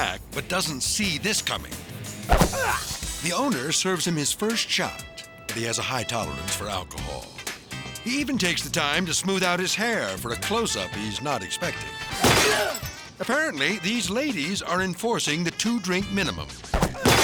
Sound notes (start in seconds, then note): 2.3 store owner grunting; 12.0 glass shattering; 12.1 clerk grunting